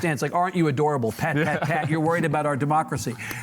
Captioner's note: laughs